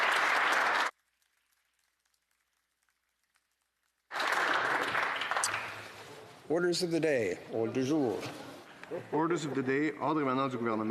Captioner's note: applause